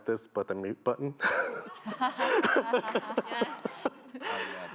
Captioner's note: laughing